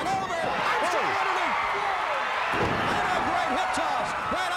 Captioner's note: fans cheering